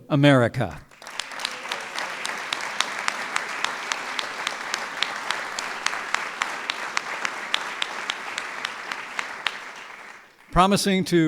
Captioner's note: applause